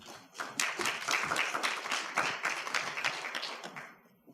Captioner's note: audience applauding